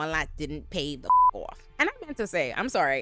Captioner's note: beep